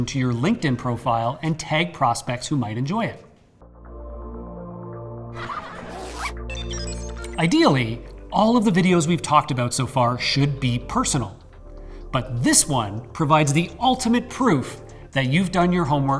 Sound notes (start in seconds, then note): 3.5 upbeat music; 5.4 zipper zipping; 5.6 laughing